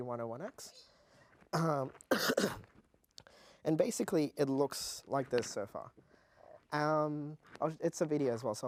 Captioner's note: cough